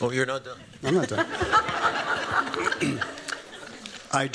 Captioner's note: laughter